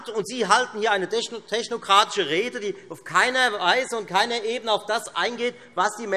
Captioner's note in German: none